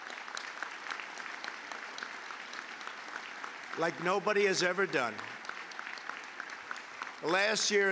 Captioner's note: applause